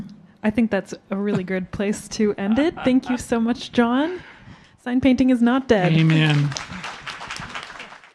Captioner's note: applause